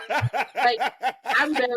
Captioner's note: laughing